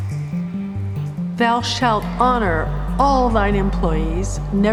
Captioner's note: echoing